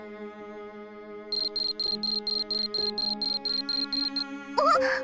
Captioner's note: Phone ringing